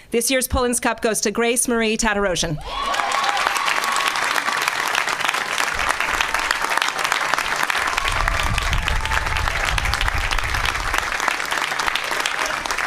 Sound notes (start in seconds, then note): 5.1 applause